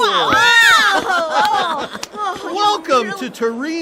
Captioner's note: screaming